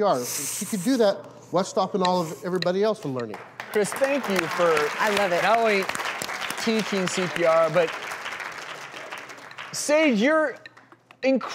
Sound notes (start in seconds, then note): 5.5 crowd claps